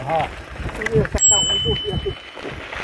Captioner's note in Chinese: 車鈴聲